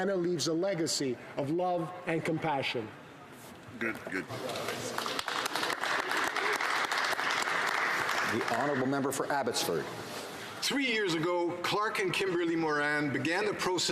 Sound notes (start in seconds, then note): 8.2 some Applause